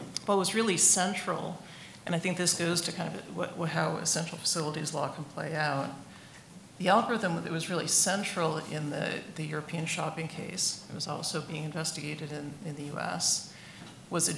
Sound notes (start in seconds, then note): none